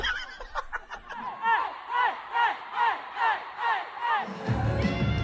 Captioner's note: crowd chanting